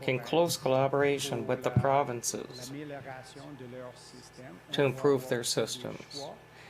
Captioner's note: speaking French